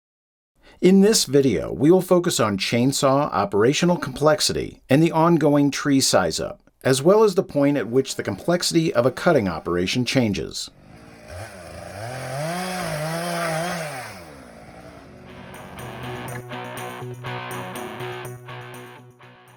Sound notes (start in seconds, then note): 10.6 chainsaw revving; 15.2 upbeat rock music